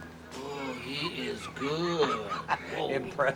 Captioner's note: laughs